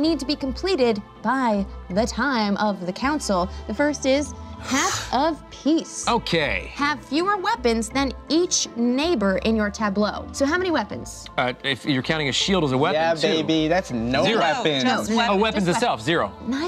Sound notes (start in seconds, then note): none